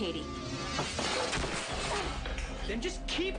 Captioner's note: intensifying dramatic music; head thuds against floor